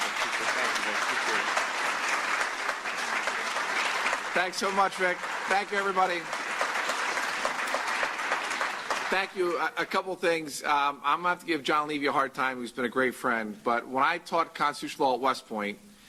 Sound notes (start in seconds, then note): 0.3 applause; 6.7 applause